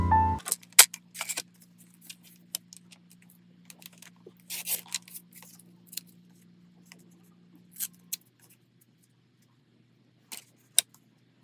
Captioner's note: cutting paper